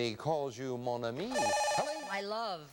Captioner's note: buzzer